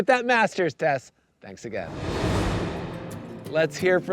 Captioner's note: graphics whooshing